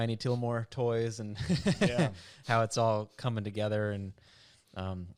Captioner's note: laughs